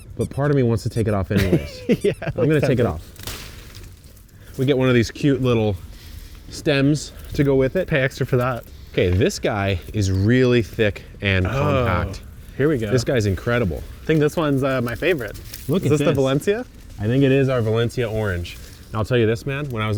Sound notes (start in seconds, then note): 1.2 laughs; 3.0 orange fruit snaps